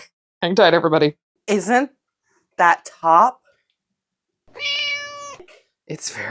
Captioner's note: meow